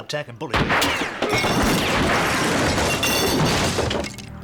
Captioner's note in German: Schüsse dröhnen